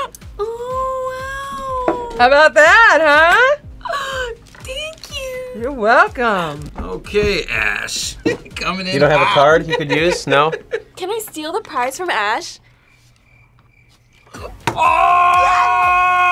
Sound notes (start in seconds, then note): 0.0 both scream; 12.8 crickets chirping